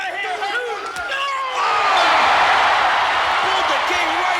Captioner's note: crowd exclaiming